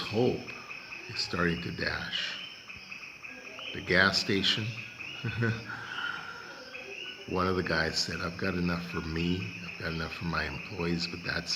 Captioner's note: laugh